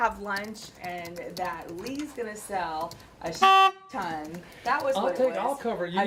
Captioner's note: honk